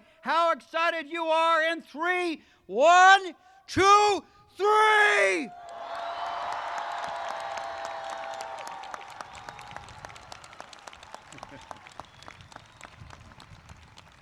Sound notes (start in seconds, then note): 5.4 audience cheers